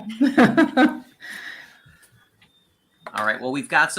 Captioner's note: laughs